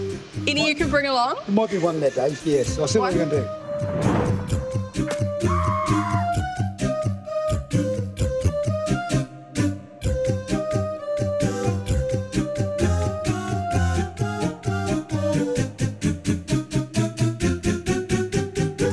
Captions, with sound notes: - Any you can bring along? - More than one lad yes, I'll send them one day. (air whooshing) (upbeat vocal music)